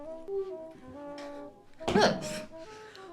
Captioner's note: mumbles; smack